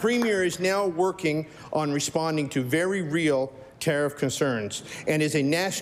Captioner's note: applause